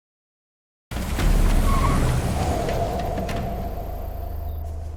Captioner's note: engine hums